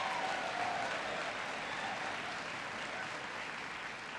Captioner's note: applause